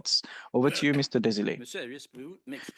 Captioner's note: speaking French